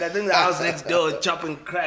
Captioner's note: everybody laughs